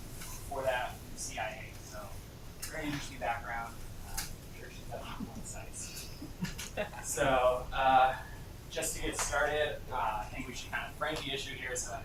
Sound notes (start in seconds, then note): 6.1 laughter